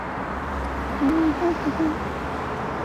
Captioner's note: humming